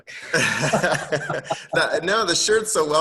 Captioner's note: all laugh